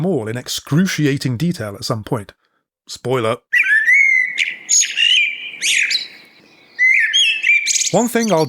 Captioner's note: bird noises